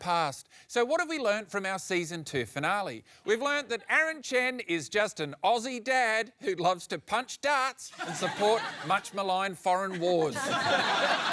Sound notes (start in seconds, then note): 7.9 laughter